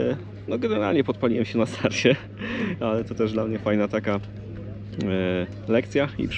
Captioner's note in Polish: śmiech